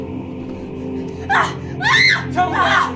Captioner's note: Ashley screams